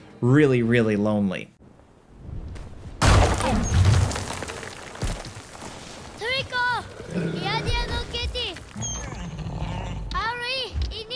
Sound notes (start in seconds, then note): 3.0 rocks clattering; 6.3 Wander speaking in foreign language